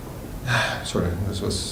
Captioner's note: sigh